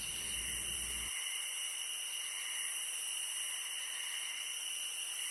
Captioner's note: insects chirping